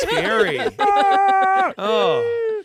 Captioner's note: yells